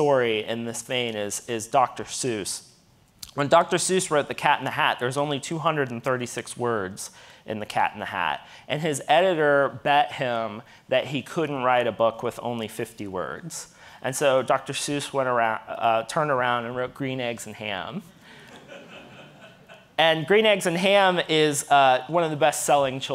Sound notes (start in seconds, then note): 18.4 audience laughing